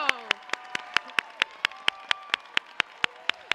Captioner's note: cheers and applause